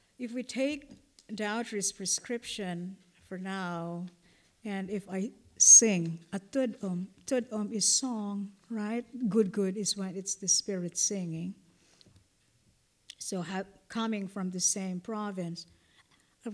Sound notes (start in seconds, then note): 9.2 non-english